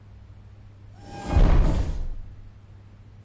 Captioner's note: robotic footstep